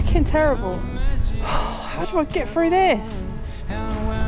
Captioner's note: sigh